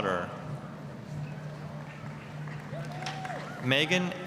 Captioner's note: applause